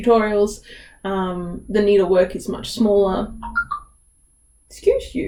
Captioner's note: phone off screen beeps